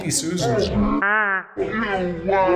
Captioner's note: voices Pitched Down